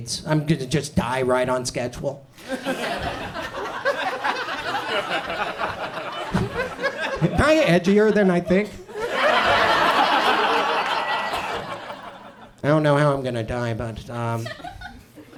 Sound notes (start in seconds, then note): 2.4 audience chuckles; 9.5 audience laughs